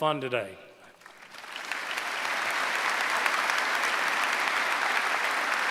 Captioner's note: applause